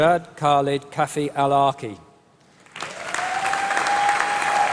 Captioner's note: applause